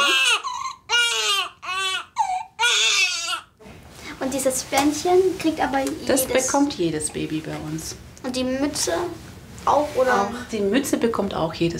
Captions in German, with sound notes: (Lautes Weinen) Dieses Bändchen kriegt aber jedes ... Das bekommt jedes Baby bei uns. - Und die Mütze? Die Mütze bekommt auch jedes Kind.